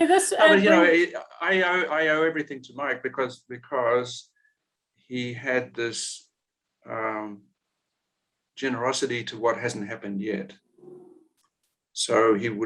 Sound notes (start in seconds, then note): 0.4 laughing